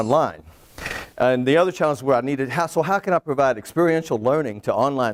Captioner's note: twinkle noise